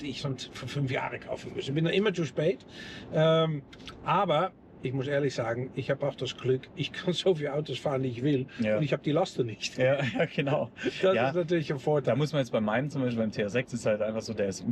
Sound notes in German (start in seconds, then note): 10.0 gelächter